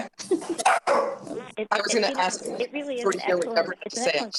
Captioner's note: chatter